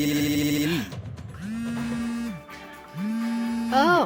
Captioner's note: phone buzzing; groaning